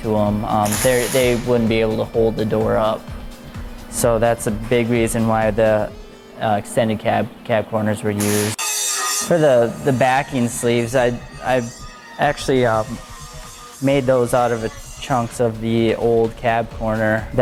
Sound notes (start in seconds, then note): 8.2 grinding sounds